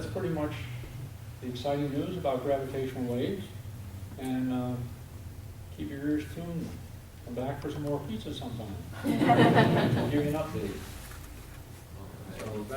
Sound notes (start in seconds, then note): 9.0 audience laughs